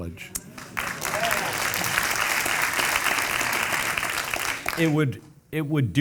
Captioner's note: audience applauding